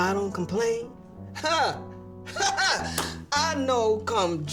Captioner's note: chuckling